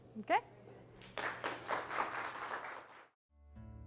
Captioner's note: applause